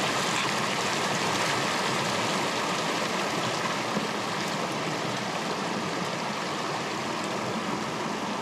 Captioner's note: water splashing